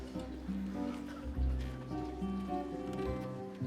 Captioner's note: crowd murmuring